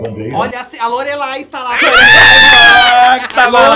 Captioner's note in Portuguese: gritos